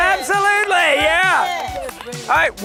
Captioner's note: crowd cheers